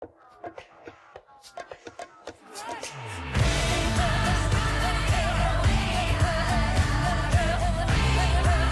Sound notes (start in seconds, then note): 1.0 drumming music; 1.0 people chattering; 3.0 upbeat music; 3.4 singing in Native language